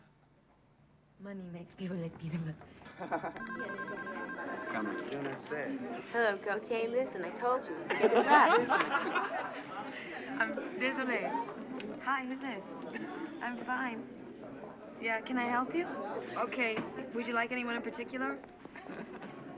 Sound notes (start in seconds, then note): 3.3 telephone rings; 7.8 laughter